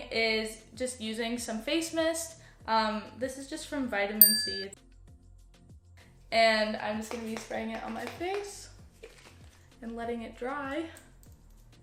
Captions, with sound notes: is just using some face mist. This is just from vitamin C. [ding] And I'm just going to be spraying it on my face and letting it dry.